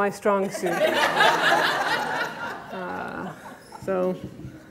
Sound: audience laughter

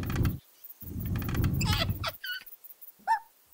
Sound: giggling

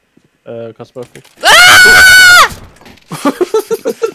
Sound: screaming for his life; laughing

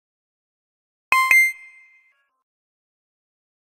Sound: sound of confirmation tone

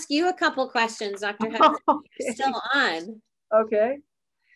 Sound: laughs

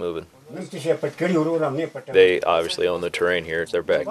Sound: Afghan speaking foreign language

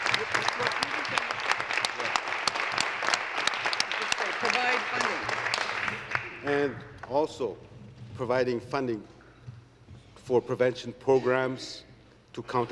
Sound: applause

